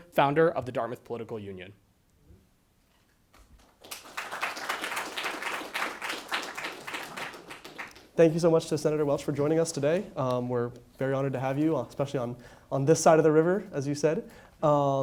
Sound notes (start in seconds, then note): 3.6 audience applauds